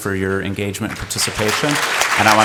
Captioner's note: applause